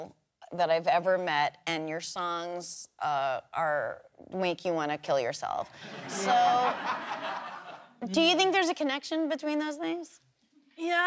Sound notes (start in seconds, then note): 5.8 laughter